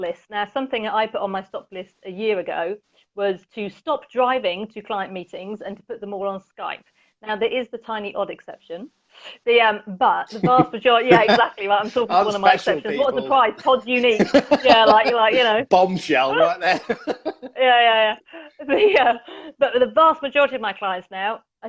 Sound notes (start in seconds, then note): 10.3 laughs